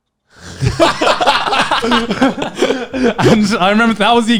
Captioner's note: laughing